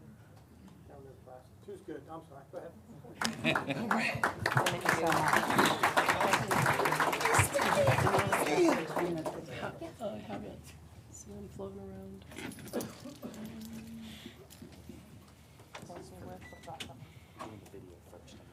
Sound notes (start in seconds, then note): 7.9 applause